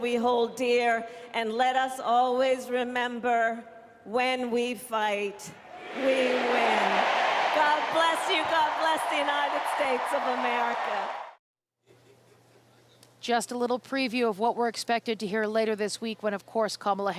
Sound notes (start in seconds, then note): 10.7 applause